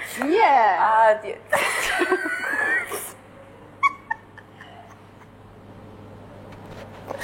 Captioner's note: loud laughter comes to us from Folguejemy kitchen